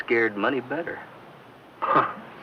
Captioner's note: chuckles